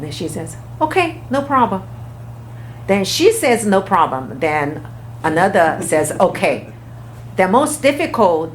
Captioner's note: laughs